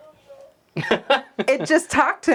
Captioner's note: laughs